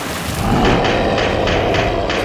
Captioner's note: monster roars